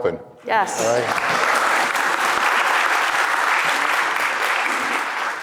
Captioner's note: audience applauds